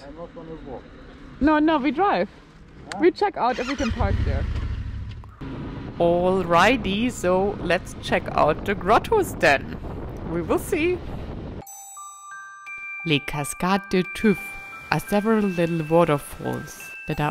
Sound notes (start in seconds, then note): 3.8 motorcycle engine roars; 11.6 gently chiming music